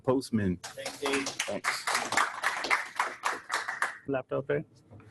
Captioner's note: audience applauding